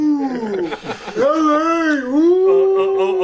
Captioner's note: all laughing